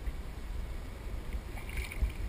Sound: splash

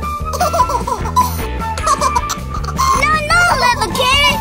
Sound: baby laughing

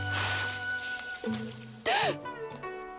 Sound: gasping

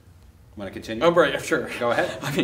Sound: laughs

